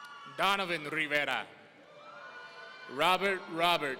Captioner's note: audience cheering; audience cheering